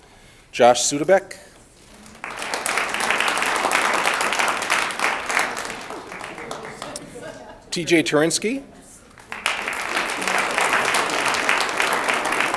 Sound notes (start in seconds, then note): 1.8 audience applauds